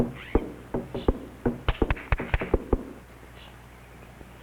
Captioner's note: woman claps